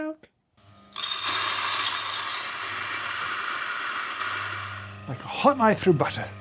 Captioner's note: grinder whirring; beans clacking and grinding